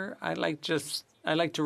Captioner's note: speaking French